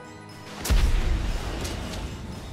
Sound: cannon fire

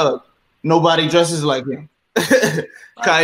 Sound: laughs

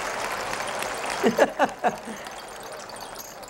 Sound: crowd applauds; laughter; shaking rattle around boy's head

